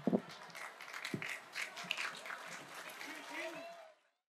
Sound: applause

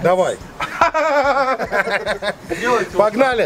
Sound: is laughing

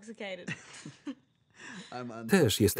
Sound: laughter

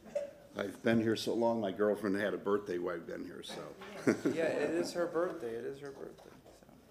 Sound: laughter

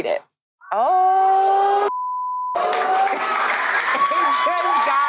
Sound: beep; audience applauding; audience oohs; laughs

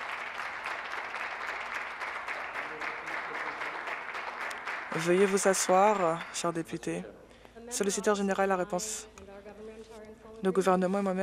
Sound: applause

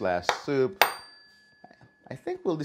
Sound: dinging

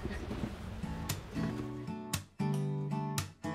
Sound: chuckles; bright guitar music

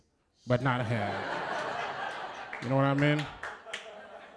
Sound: laughter

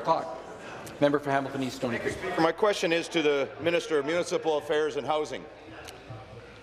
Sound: conversation din

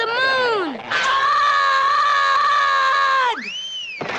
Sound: Charlie Brown screams; thud!

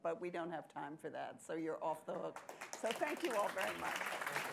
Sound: applause

